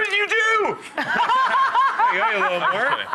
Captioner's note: laughter